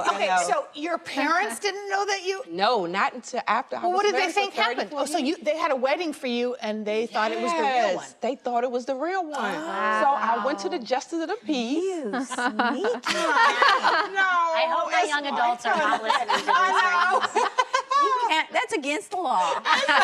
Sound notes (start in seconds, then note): 15.6 ladies laughing; 15.6 laughing